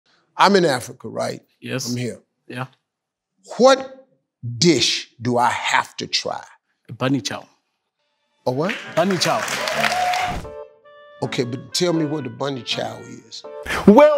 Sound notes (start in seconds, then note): 8.5 audience applauding